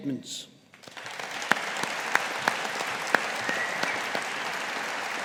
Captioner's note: audience applauding